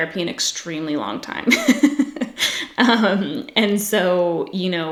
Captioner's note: laughs